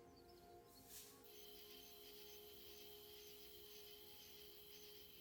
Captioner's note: crickets chirping